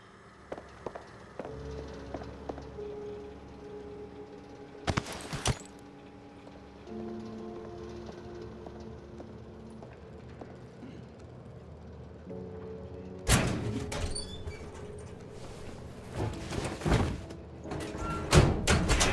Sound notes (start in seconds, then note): 8.0 ominous music; 8.8 metal clanking